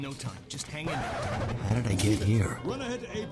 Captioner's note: record scratch